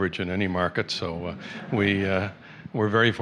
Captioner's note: laughter